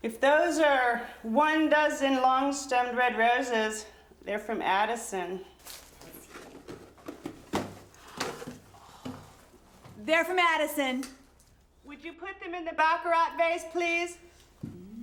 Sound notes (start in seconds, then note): 8.0 box clattering; 8.2 gasps